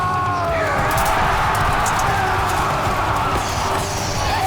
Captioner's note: battle Cries